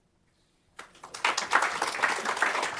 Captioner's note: applause